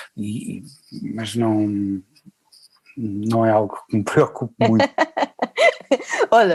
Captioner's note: laughs